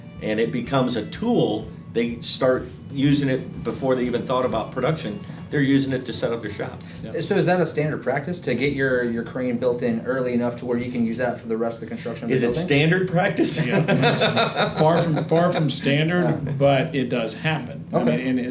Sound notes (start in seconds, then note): 0.0 pop-rock music; 13.5 both laugh